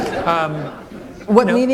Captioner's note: laughter